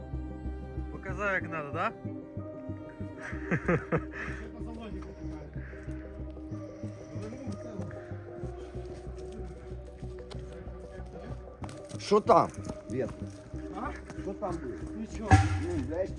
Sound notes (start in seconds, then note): 3.2 laughter